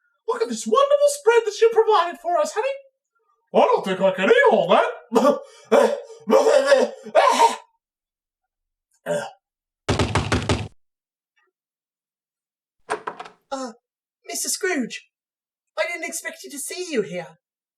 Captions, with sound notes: Look at this wonderful spread that you have provided for us, honey! I don't think i could eat all that! [Descends into a coughing fit] [Knocking on door] [Door opens] Uh... Mr. Scrooge! I didn't expect to see you here...